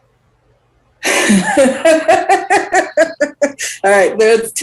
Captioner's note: laughs